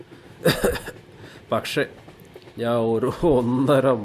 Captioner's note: he coughs